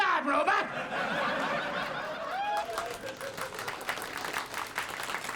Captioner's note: audience laughs and applauds